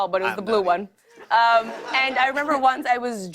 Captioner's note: laughter